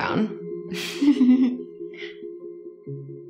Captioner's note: girls laugh